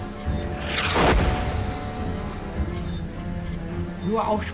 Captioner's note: shell exploding